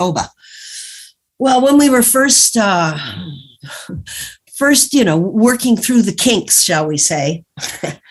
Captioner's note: chuckles